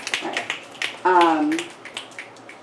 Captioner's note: applause snaps and applause